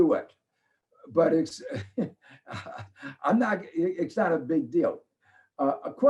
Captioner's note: laughs